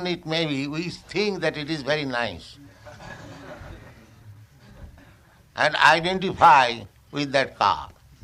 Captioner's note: laughter